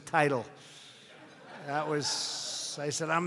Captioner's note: laughter